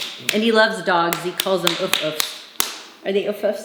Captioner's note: claps